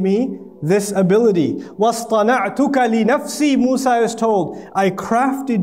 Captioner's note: Arabic